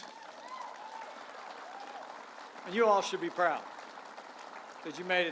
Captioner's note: applause